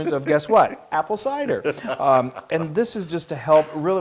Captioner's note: laugh